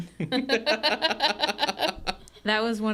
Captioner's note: group laughs